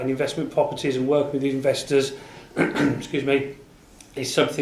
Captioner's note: coughs